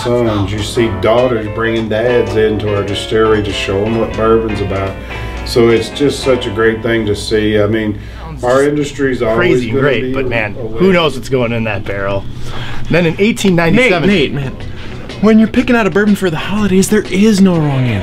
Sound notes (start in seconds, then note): 9.3 talking